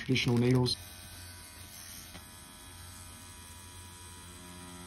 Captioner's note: machine buzzing